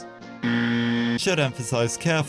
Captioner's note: incorrect buzzer